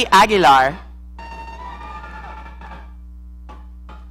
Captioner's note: audience cheering